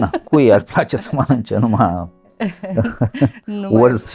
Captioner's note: laughter